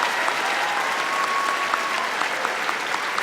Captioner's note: applause